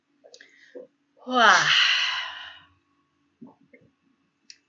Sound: sighs

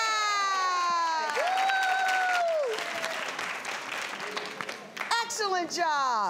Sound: audience cheers

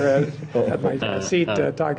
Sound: laughter

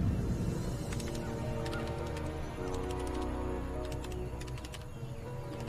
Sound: typing

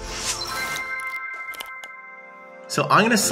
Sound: upbeat music; graphics chime

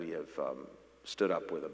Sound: none

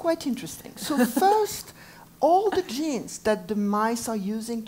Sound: laugh

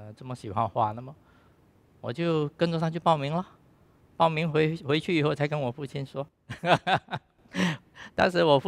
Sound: laughs

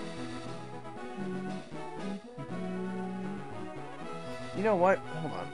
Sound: humming to music

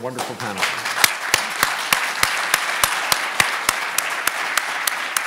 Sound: audience applauding

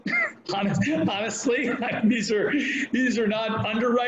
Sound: laughing

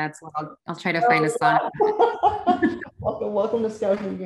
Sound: laughs

